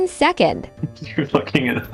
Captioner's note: laugh